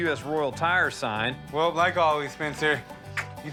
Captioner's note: click tongue